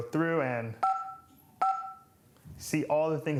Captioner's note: beeps